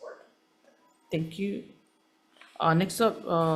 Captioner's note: paper rustling